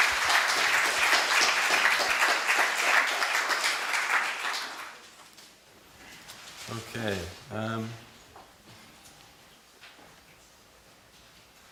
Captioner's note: applause